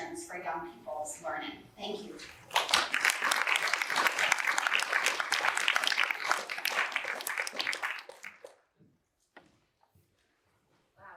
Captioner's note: applause